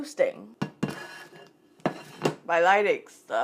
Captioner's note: plate on counter sound